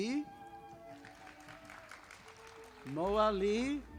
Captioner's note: audience applauding